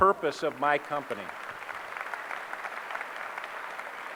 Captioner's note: applause